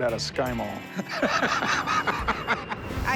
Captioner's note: laughs